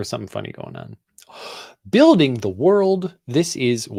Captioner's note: gasps